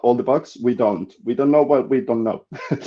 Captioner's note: chuckles